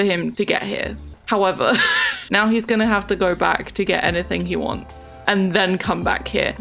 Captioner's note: laughs